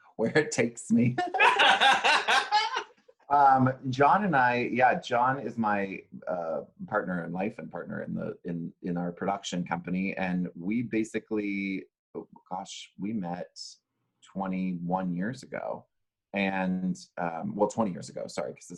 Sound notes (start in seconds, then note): 1.2 laughs